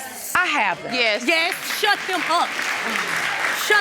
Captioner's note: audience applauding